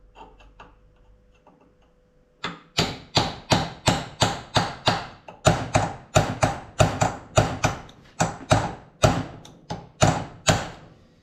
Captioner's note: hammering